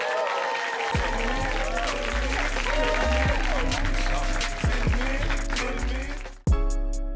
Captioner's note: audience cheering